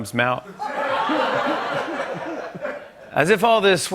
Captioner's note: laughter